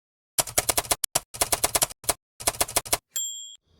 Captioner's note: typewriter clicking